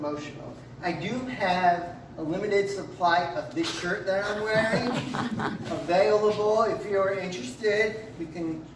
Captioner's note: laughter from audience